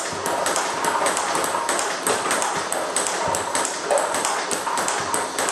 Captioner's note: ball ping pong hitting continues